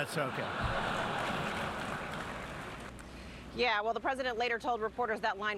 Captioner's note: laughter